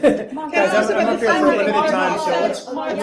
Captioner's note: laughs; reporters chatter